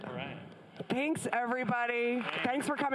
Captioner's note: audience applauds